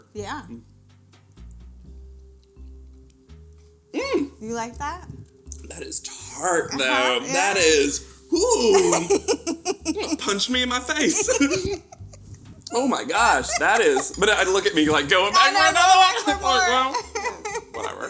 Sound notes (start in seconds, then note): 9.3 laughs